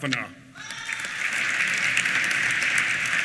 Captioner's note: applause